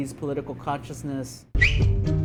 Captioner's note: whistles